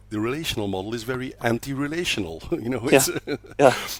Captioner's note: laughs